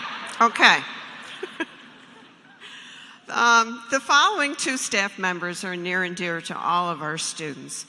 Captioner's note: cheers and applause